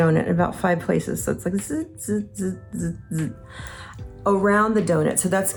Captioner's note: imitates laser buzzing